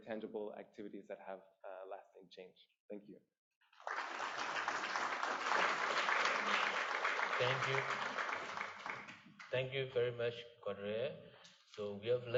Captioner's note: applause